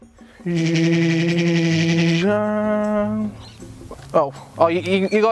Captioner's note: retarded train noises